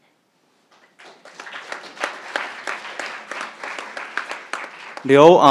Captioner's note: crowd applauding